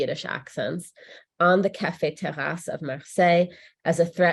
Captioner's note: speaks in French